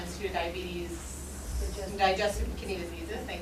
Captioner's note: speaking from off mic